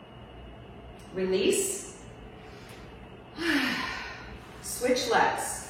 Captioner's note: exhales